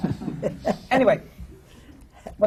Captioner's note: laughter